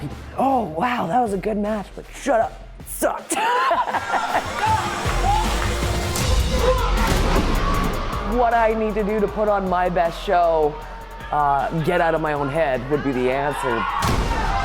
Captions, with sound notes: oh wow, that was a good match. shut up. it Sucked! (Laughter) what I need to do to put on my best show. Get out of my own head would be the ass and